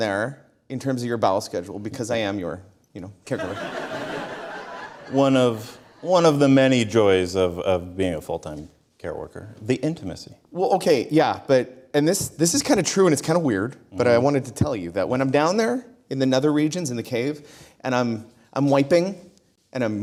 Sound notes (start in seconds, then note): 3.4 audience Laughter